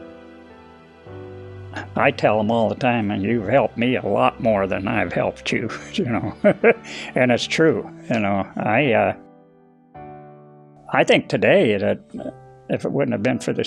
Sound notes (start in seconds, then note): 5.6 chuckles